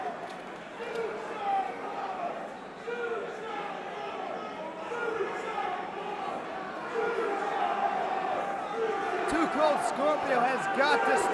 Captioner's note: crowd cheering